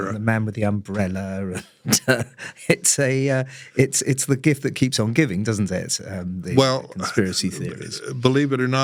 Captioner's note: laugh